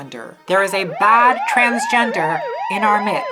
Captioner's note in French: sirène